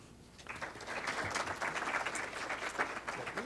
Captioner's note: clapping